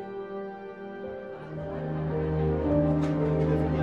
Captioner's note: people chattering